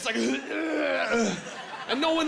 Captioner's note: retching